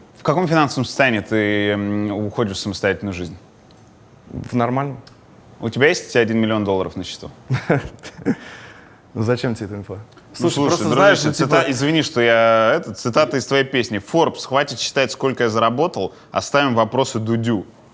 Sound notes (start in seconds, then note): 7.5 laughs